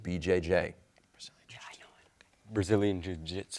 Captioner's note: whispers